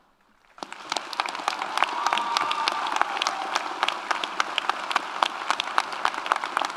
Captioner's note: audience applauds; audience cheers